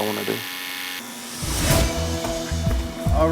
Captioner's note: buzzing